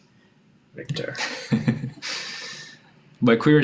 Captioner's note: laughing